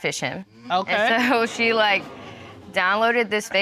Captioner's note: audience exclaims